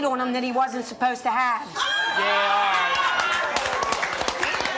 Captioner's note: audience laughing; applause